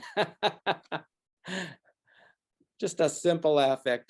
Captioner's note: laughs